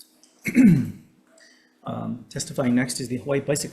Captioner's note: Chair clears throat